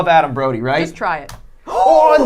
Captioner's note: gasps